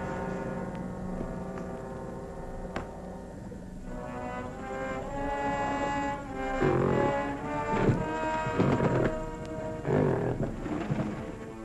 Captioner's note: muffled thumping